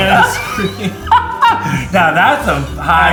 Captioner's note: laughing